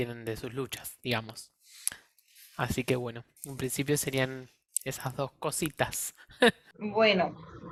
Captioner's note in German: lacht